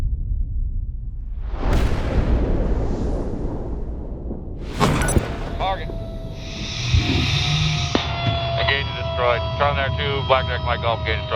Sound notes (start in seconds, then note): 1.6 cannon blasts; 6.8 machine whirs